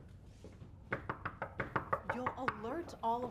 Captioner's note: knocking